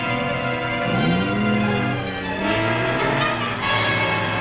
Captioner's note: engine roaring